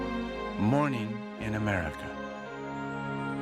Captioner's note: voiceover